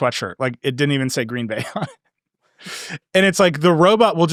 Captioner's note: laughing